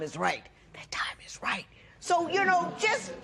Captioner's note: whispering